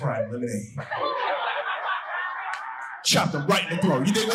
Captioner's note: audience laughing